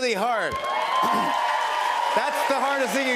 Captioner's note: cheers and applause